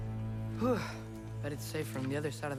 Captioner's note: exhale